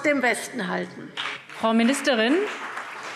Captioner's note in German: Beifall CDU und BÜNDNIS 90/DIE GRÜNEN